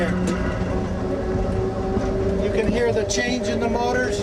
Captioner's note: trolley accelerating